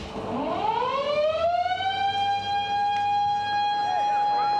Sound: siren wailing

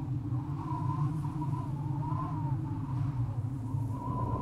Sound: wind blowing

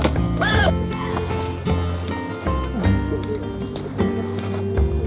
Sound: laughs

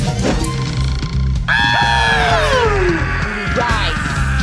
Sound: screams

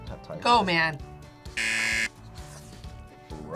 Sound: buzzer

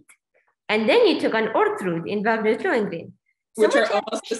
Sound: laughs

